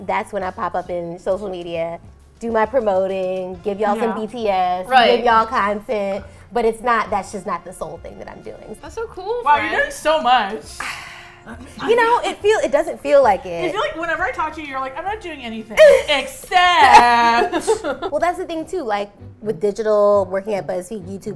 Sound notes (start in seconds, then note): 10.4 sighs; 16.7 laugh